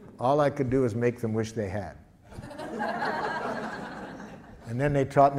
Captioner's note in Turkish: Gülüşmeler